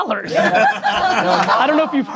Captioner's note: everyone laughing